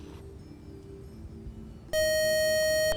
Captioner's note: buzzer